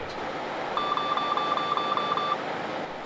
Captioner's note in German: piep piep piep piep